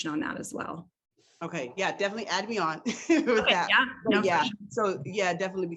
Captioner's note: laughs